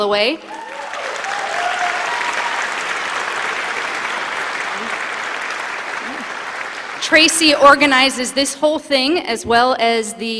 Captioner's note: applause